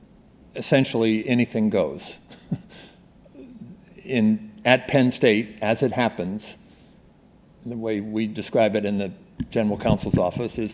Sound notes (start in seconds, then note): 2.2 chuckling